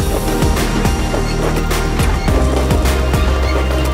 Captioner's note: clattering & clattering